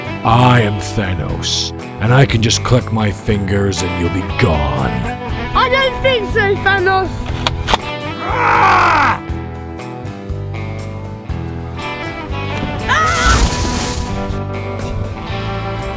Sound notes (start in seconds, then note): 8.2 roaring; 13.0 yelling